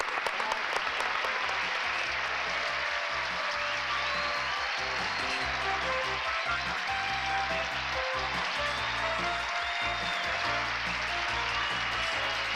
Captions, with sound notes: We love you. Bye! [audience applauding]